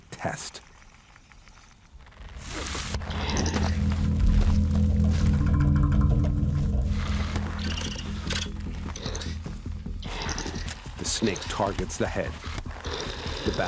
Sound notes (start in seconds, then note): 2.4 snake hisses; 2.6 badger grumbles